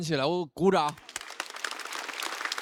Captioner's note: applaud